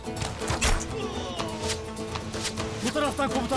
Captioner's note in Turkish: Ok fırlatma sesleri